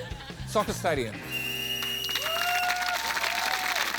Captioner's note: laughter; blows whistle; cheering, applause